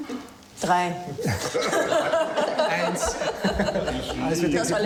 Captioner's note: speaking in foreign language; laughing; speaking in foreign language